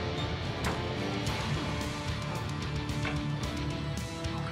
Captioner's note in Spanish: sonido al cerrar la puerta